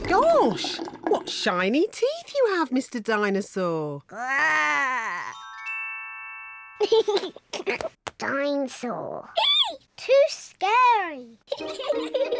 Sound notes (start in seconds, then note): 6.8 giggles; 11.6 both giggle